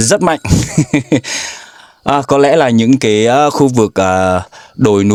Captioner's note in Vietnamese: tiếng cười